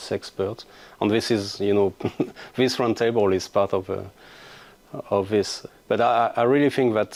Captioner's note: chuckles